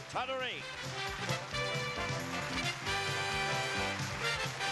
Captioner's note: crowd applauds